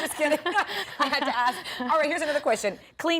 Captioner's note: laughter